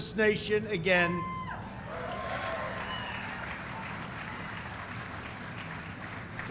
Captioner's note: applause